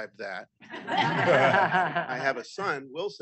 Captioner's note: audience laughing